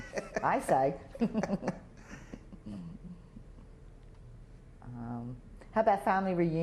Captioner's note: chuckles; laughter